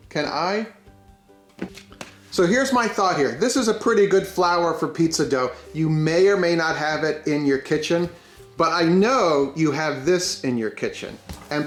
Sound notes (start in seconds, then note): 1.5 bags tapping